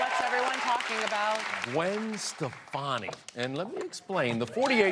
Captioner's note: applause